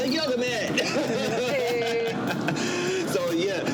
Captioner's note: laughs